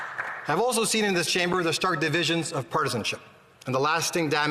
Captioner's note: applause